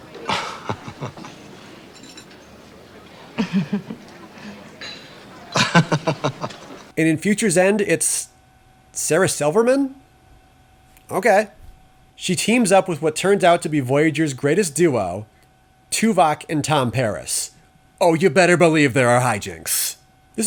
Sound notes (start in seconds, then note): 0.0 light laugh; 5.6 more laughing